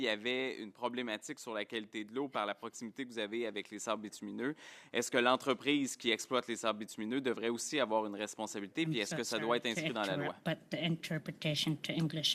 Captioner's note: speaking French